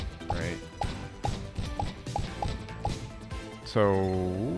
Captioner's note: gunshots